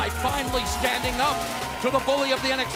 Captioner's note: bell ringing